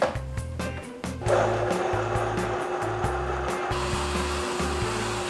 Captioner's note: upbeat music; blending sounds